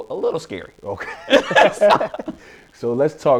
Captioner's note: laughs